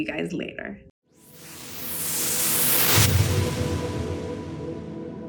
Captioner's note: whooshing sound